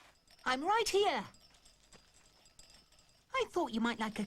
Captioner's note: glasses jingling